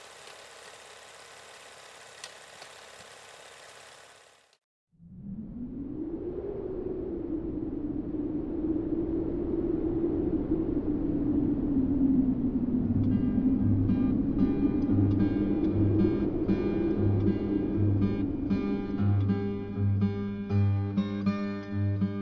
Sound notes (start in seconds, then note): 0.0 film reel spinning; 7.4 wind blowing